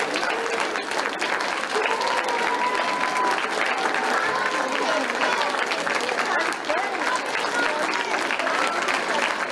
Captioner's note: more claps